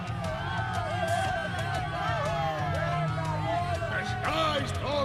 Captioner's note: crowd cheering